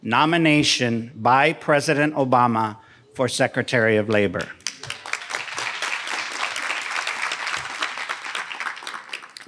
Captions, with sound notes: Nomination by President Obama for Secretary of Labor. (audience applauding)